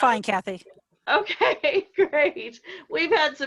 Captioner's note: laughing